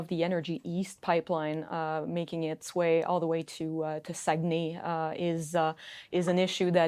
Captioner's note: speaking in French